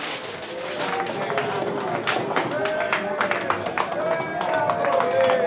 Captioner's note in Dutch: Applaus